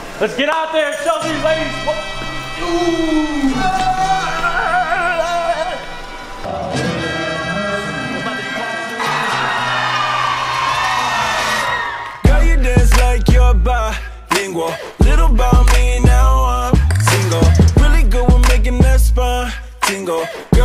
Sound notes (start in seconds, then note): 2.9 howling; 8.9 crowd screams and applauds